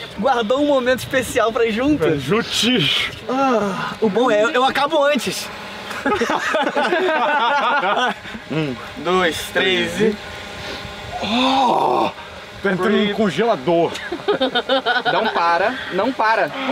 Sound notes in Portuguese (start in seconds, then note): 5.8 risadas